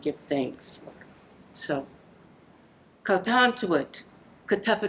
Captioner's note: narragansett speech